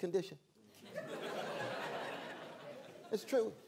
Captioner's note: laughter